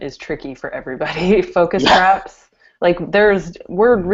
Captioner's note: laughter